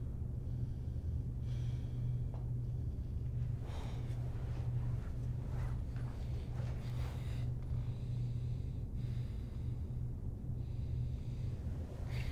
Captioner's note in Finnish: Nukkumisen ääniä